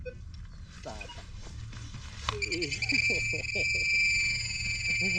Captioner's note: beeping